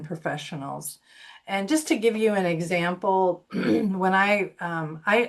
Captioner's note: clears throat